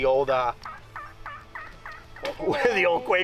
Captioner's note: turkey call chirps